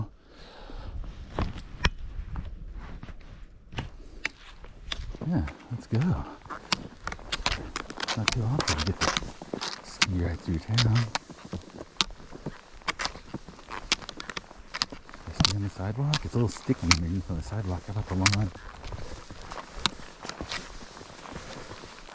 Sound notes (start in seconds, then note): 0.1 deep breath; 1.6 click click click click click; 6.2 clicking sound of ski pole spike on cement under snow